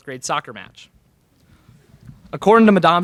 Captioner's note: laugher in crowd